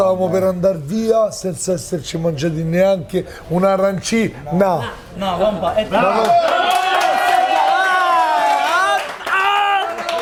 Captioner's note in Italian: Applauso